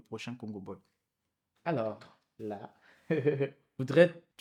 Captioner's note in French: rires